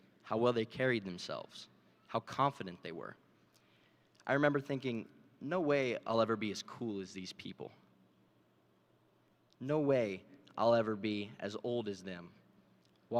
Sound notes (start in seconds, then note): none